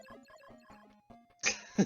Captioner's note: laughs